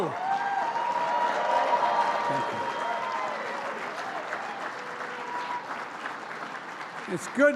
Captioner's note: applause